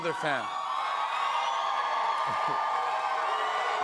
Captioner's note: cheers and applause